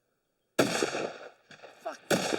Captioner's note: gun shot